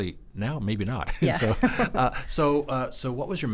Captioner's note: laughs